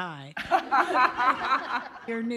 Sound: laughter

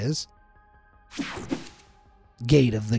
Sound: techno sound effect

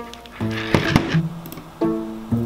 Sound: mouse clicking

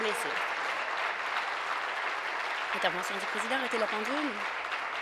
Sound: applause

